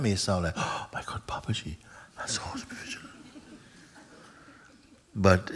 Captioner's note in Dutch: gelach